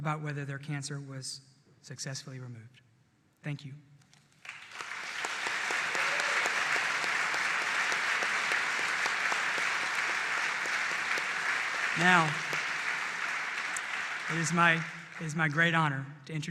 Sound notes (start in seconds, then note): 7.6 applause